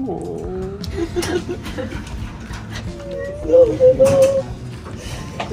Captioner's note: crying